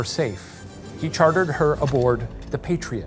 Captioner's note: projector clicking